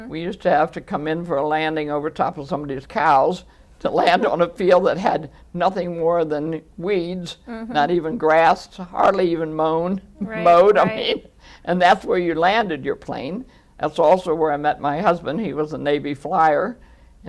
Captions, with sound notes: We used to have to come in for a landing over top of somebody's cows to land on a field that had nothing more than weeds, not even grass to hardly even moaned-- (LAUGHING) mowed, I mean. And that's where you landed your plane. That's also where I met my husband. He was a Navy flier.